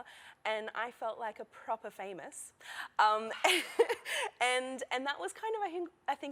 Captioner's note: laughter